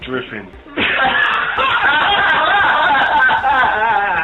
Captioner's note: laughing